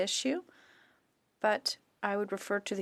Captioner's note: speaking french